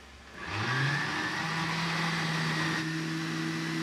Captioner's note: blender whirrs